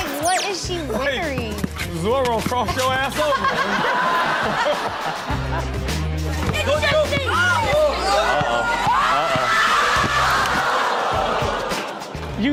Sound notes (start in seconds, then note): 6.4 kids shouting; 10.4 audience groans